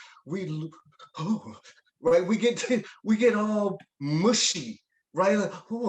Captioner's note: gasps dramatically